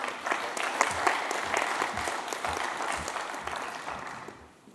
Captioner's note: applause